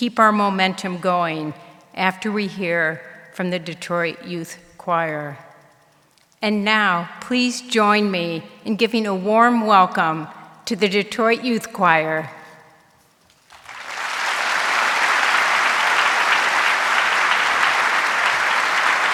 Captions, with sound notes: to keep our momentum going after we hear from the Detroit Youth Choir. And now please join me in giving a warm welcome to the Detroit Youth Choir. (audience applauding)